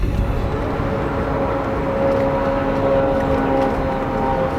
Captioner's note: suspenseful music; airplane engine roaring